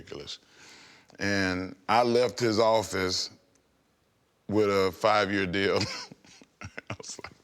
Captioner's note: laughs